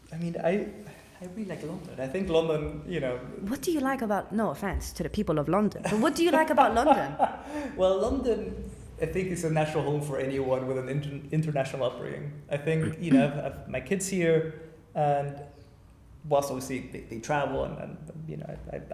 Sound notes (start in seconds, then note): 5.8 laughter